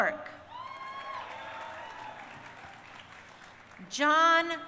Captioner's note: crowd cheering